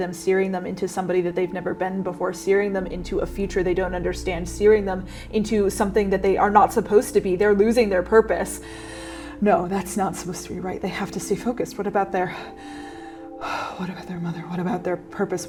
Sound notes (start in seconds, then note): 12.4 panicked breathing